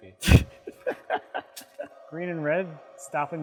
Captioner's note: laughing